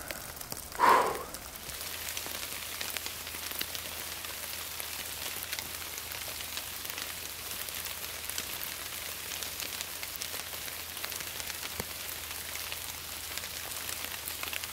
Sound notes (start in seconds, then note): 0.7 exhales forcefully; 2.1 rain falling heavily